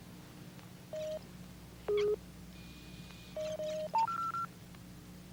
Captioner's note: machine beeping